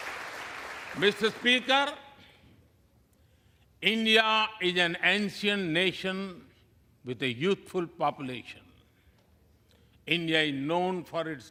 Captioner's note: applause